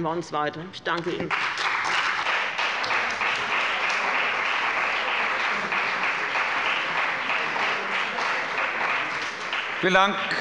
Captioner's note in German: Beifall bei dem BÜNDNIS 90/DIE GRÜNEN, der CDU und der FDP